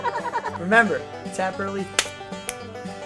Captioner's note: hands slapping